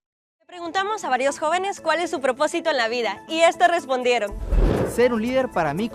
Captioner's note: speaking in Spanish; upbeat music